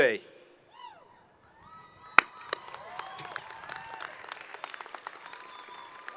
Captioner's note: applause